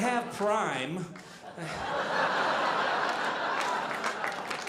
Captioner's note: audience laughing